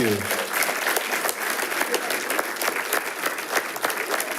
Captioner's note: attendees applauding